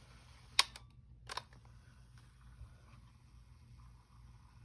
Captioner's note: cassette clicking and whirring; cassette whirring yet again